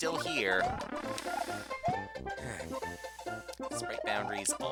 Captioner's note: breathing